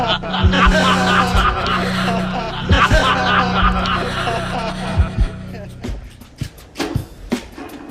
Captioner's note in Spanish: risas; todos ríen